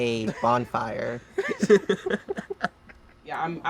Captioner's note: all laugh